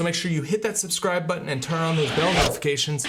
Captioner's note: whooshing sound